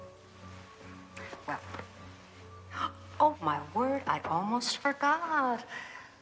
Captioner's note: gasps